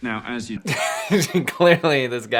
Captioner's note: laughing